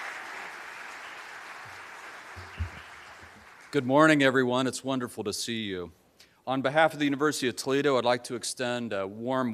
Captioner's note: applause